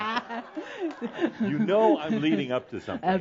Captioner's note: more laughter